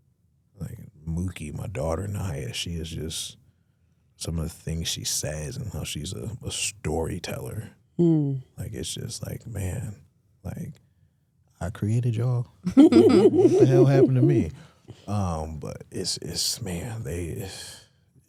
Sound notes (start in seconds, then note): 12.7 hosts laughing